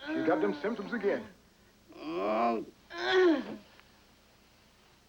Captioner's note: continues Moaning